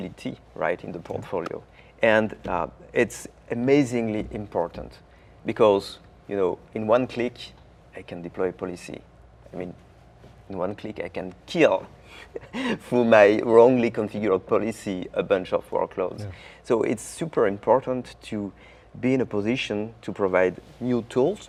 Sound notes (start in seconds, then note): 11.7 laughing